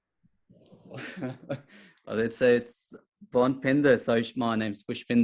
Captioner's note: chuckles